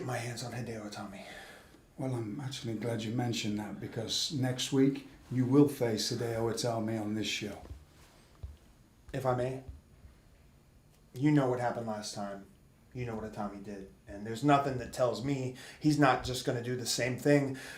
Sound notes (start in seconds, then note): none